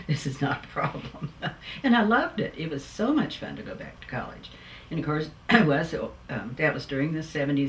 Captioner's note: laughs